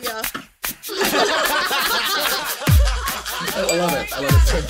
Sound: upbeat music; group laughing

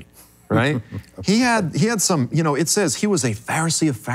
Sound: chuckling

